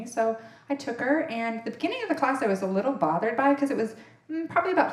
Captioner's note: none